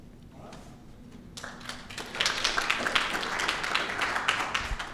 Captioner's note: audience clapping